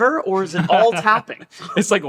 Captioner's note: laughing